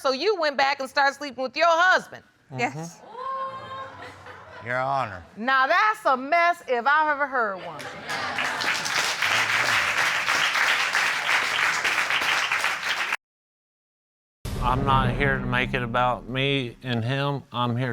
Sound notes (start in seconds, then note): 7.8 applause